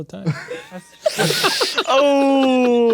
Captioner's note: players laughing